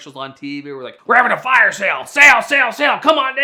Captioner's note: gruff voice